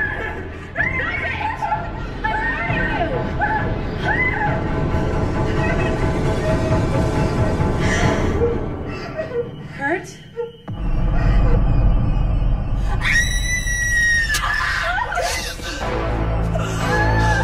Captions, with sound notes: ( Screaming Hysterically ) Stop it! I'm warning you! ( Screaming Continues ) - ( Samantha Sobs ) - ( Marylin Gasps ) Kurt? ( Screams ) ( Marylin Gasps )